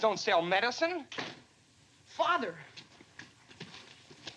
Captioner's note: door opens